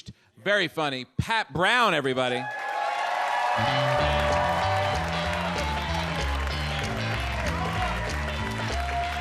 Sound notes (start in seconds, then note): 2.4 audience cheers; 2.4 audience applauds; 3.5 upbeat music